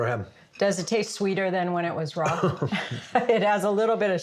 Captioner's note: laughs